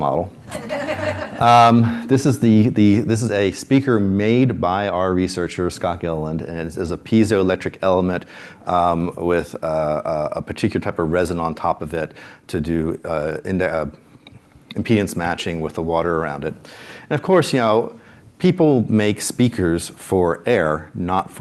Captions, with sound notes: model. [LAUGHTER] This is a speaker made by our researcher, Scott Gillen. And it is a piezoelectric element with a particular type of resin on top of it to do impedance matching with the water around it. And of course, people make speakers for air, not